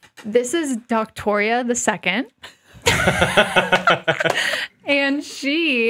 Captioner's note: chuckling